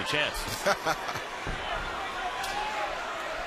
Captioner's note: laughs